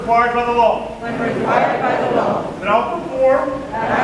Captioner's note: crowd